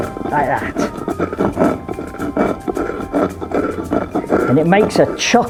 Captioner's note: sound of grinding